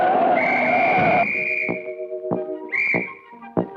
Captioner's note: rock screeching; Daffy blowing whistle